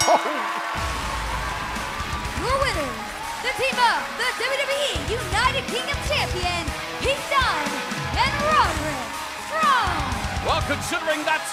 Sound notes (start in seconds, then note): 0.0 bell ringing; 3.0 cheers and applause